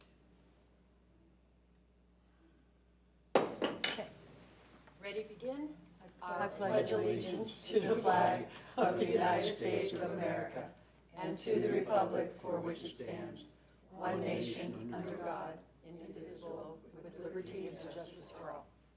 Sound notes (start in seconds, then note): 3.4 gavel strike